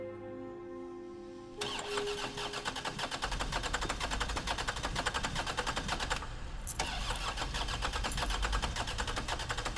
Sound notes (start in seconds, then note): 1.6 car engine cranking